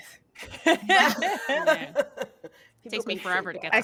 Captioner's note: laughing